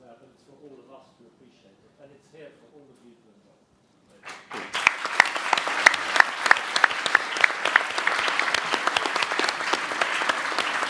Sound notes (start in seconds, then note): 4.2 everyone applauds